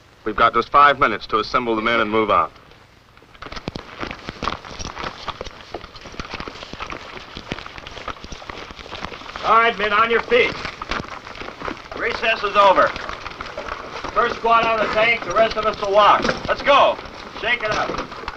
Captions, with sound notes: We've got just five minutes to assemble the men and move out. [quick footsteps] - All right men, on your feet. Recess is over. First squad out of the tank, the rest of us will walk. Let's go, shake it up.